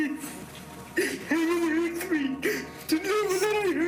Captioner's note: crying